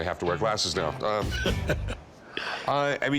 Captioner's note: chuckles